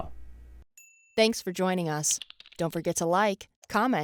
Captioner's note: voiceover